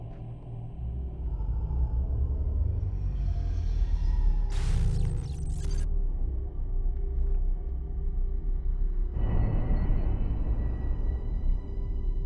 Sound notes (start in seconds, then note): 4.6 static crackling; 7.8 eerie music